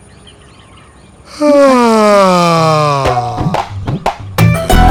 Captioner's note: he yawns